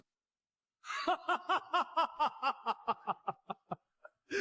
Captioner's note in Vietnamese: tiếng cười